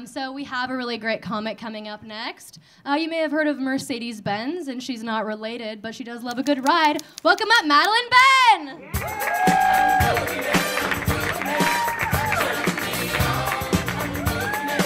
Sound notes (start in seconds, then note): 8.8 audience cheering; 9.1 audience clapping